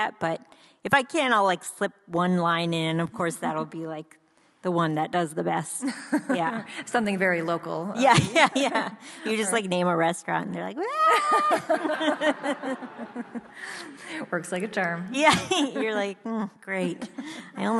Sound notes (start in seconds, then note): 7.0 laughs; 11.2 audience laughs; 11.5 yells